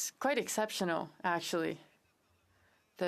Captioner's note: speaking French